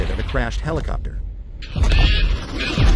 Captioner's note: ground shakes ominously